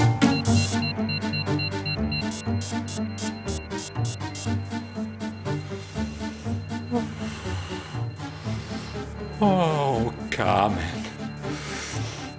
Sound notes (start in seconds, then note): 0.3 machinery beeps; 0.3 tense music; 5.3 breaths heavily